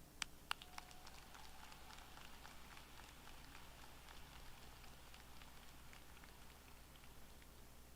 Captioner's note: applause